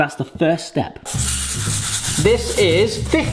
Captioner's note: seeds rattling